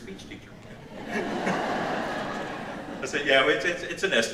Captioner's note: audience laughs